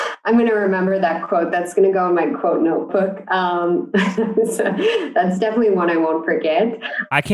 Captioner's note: laughs